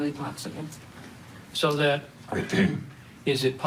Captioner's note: clears throat